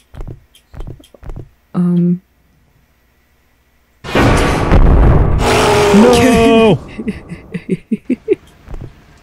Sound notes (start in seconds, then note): 6.8 snickers